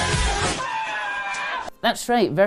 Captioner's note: upbeat music; screaming